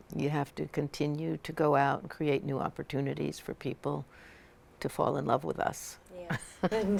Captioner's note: laughter